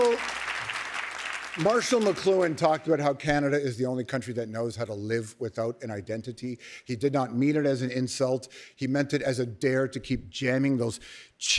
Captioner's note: cheers and applause